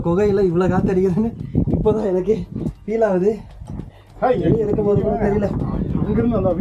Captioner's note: speaker noise